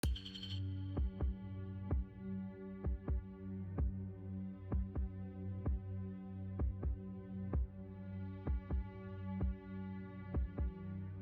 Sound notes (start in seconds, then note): 0.1 slow, tense music; 0.2 heart beating